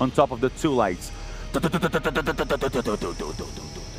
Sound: generator stopping

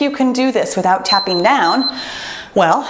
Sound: timer beeps

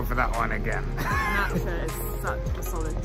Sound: laughing

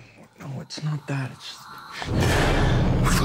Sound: heavy breathing

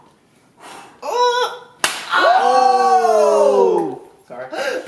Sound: heavy breathing; whimpers, groans

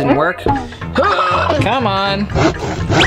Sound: grunts

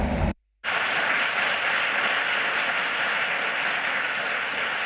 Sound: audience applauds

